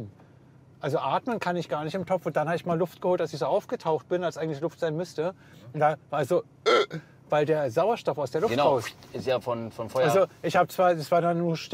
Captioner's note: ugh